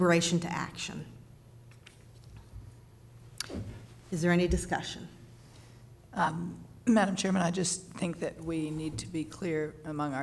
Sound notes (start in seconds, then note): none